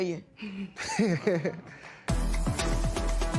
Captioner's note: laughs